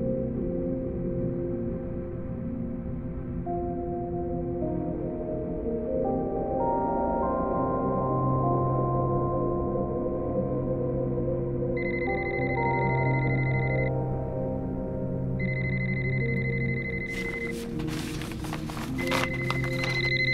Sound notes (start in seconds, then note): 12.7 phone ringing; 17.0 paper rustling